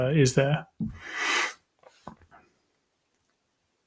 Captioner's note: sniffles